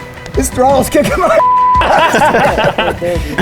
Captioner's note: beep; laughing